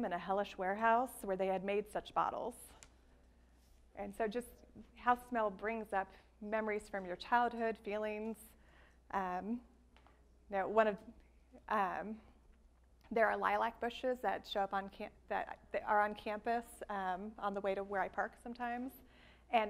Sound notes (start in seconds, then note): none